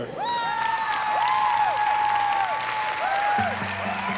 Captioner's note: audience cheering